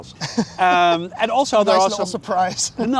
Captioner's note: laughing